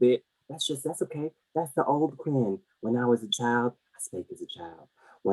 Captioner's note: whispering